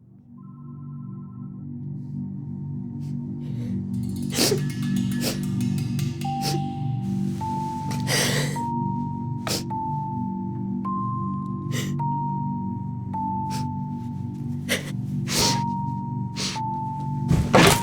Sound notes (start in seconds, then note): 0.2 uneasy music; 4.1 off-screen, sobs; 6.3 uneasy music; 17.2 furniture breaking